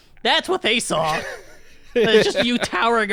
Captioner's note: laughs